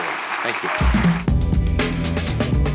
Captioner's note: applause